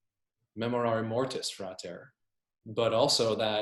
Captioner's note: foreign language